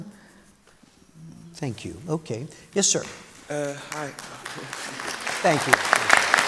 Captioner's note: applause